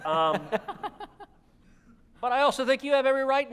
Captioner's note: audience laughter